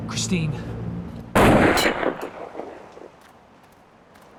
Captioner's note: gunshot bangs